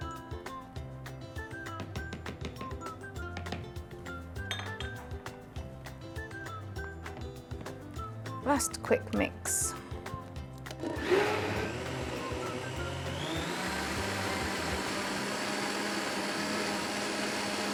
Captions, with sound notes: Last quick mix. (blender whirs)